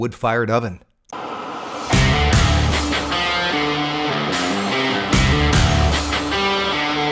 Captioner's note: torch flame roaring; upbeat rock music